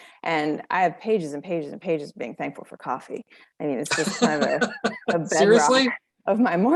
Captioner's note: laughing: Seriously?